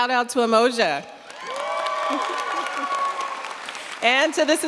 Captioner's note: cheers, applause